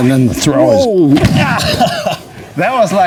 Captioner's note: groans